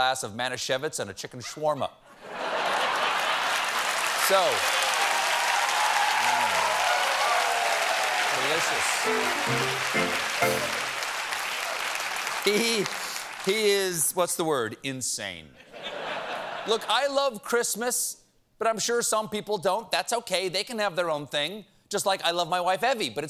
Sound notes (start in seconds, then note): 6.6 cheers and applause; 8.4 piano riff; 17.9 laughter